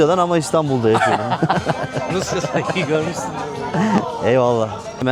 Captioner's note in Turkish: kahkaha